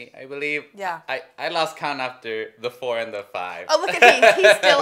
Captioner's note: laughs